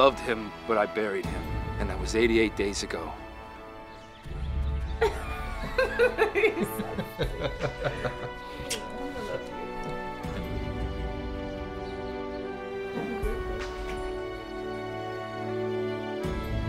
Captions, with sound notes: I loved him, but I buried him, and that was 88 days ago. (laughing) - You're so stupid. I love you. - I love you. - Happy birthday.